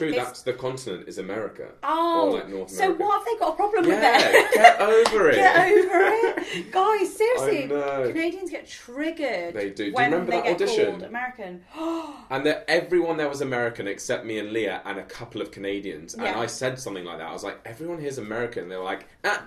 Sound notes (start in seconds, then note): 5.3 laughs; 11.7 gasps